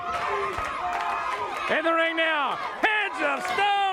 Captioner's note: crowd clapping